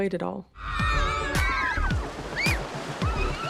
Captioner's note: girls squealing excitedly